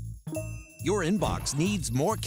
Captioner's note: notification chimes